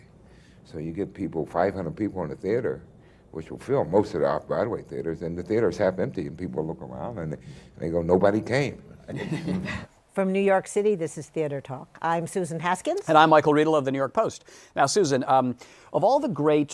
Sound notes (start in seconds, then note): 9.0 laughter